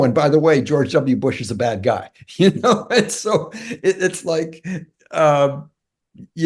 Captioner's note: laugh